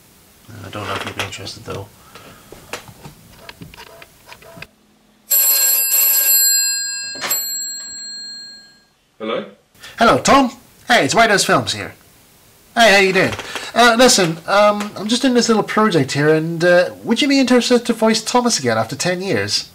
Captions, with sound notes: I don't know if he'd be interested though (Phone rings) Hello? Hello, Tom? Hey, it's WhitehouseFilms here. Hey, how you doing? Listen, I'm doing this little project here and errr... would you be interested in voicing Thomas again after 10 years?